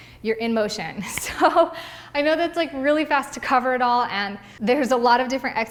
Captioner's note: laughs